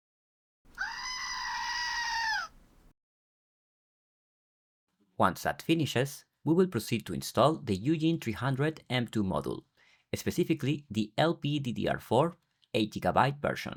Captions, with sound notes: [screaming] Once that finishes, we will proceed to install the UGen 300 M2 model, specifically the LPDDR4 8GB version.